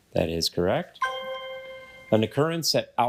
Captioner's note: bell dings